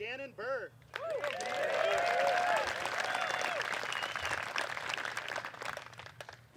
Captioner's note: applause; cheering